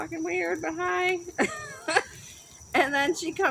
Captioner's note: laughs